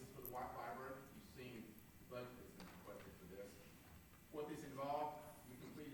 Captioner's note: faintly speaking